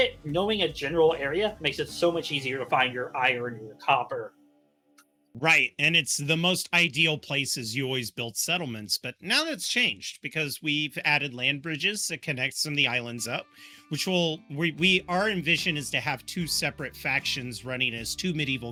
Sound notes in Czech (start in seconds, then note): none